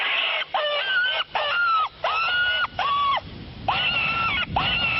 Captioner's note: creature screaming